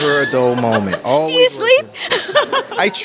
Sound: laughter

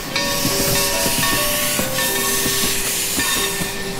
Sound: train whistle

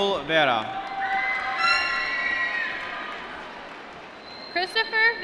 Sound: applause

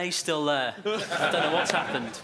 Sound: laughing

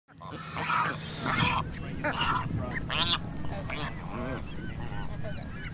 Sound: the sounds of wind, waves, pelicans and seagulls

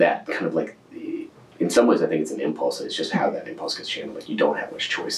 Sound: laughs

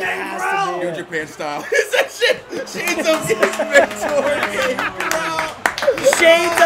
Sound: laugh

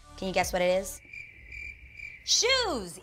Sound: crickets chirping

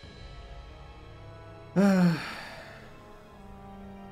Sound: sigh

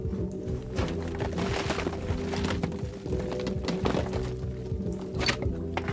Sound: moving rock and wood boards, muffled music continues playing

